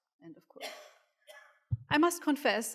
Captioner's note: audience coughing